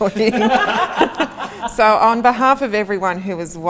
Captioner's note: all laugh